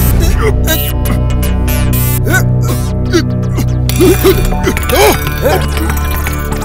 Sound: sound of choking

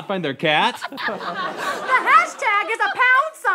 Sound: laughing

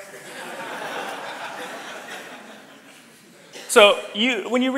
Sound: audience laughs

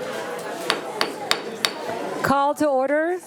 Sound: gavel banging

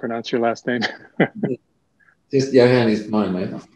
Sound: chuckles

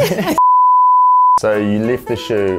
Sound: beeping

